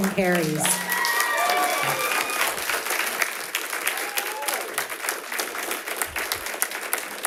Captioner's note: audience cheers; audience applauds